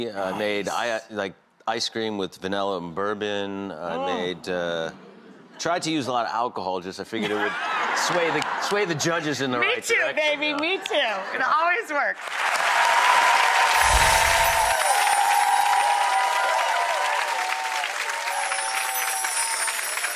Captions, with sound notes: I made an ice cream with vanilla and bourbon. I made, I tried to use a lot of alcohol, cuz I figured it would sway the judges in the right. Me too baby, me too and it always works. (audience applause)